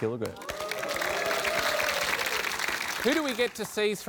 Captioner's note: applause